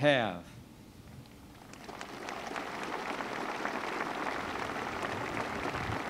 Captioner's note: applause